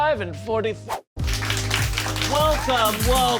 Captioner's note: audience applauds